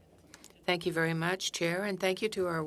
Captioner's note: speaking French